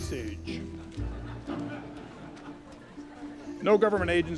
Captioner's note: audience laughing